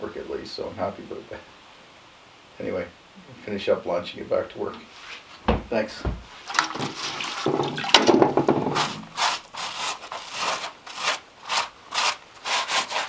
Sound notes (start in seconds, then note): 6.0 water splashing; 8.9 sponge scraping against stone